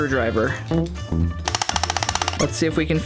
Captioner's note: hammer clanging